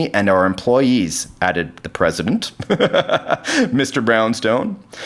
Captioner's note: laughs